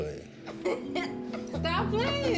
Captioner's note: laughter